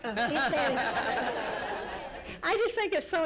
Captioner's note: laughter